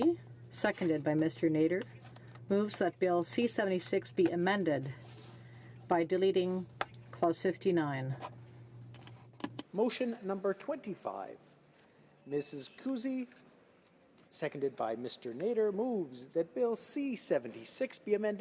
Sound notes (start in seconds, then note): 9.7 speaking French